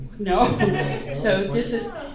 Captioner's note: laughter